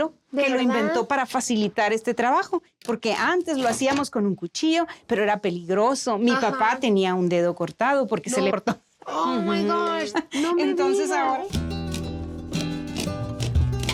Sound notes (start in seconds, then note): 9.9 both speaking Spanish